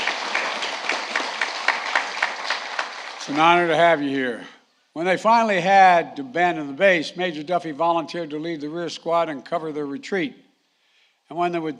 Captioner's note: applause